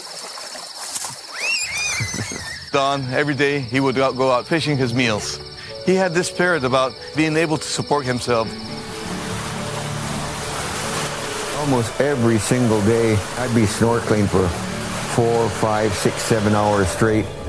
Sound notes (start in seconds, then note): 0.0 water lapping; 1.2 fish flipping, children screaming